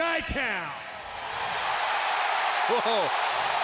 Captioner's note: audience cheering